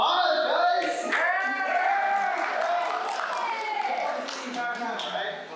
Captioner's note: applause